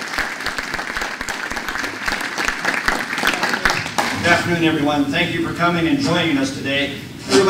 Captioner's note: applause